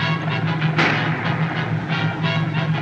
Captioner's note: gunshot